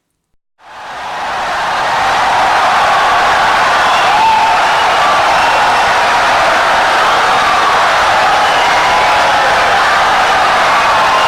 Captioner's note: wild applause and cheering for 17 seconds